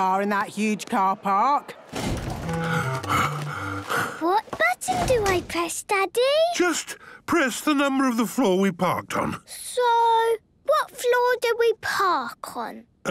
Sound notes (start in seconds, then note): 2.0 Daddy Pig panting